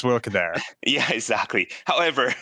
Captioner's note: laughs